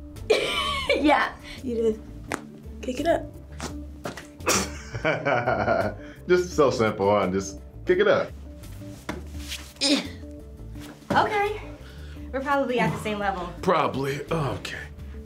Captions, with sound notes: (laughs) Yeah. - You just kick it up. - (laughs) Just so simple, huh. Just kick it up. - (grunts) - Okay. We're probably at the same level. - (pained) Probably. Okay.